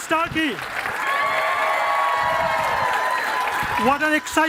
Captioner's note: cheering and applause